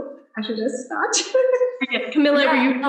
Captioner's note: laughs